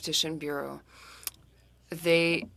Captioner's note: speaking French